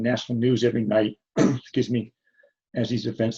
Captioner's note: clears throat